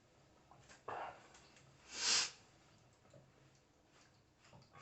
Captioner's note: sniffs